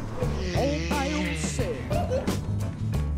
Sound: giggles

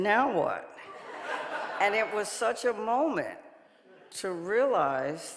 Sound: audience laughing

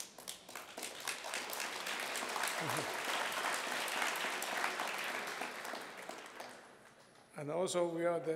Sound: applause

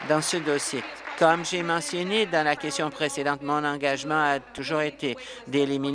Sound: applause

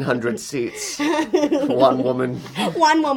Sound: she laughs

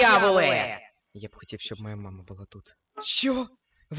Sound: sighs

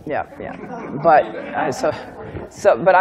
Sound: laughter

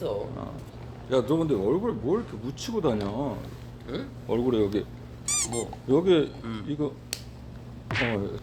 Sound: slaps

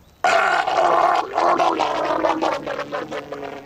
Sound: Frank gurgling

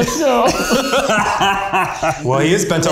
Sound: all laughing

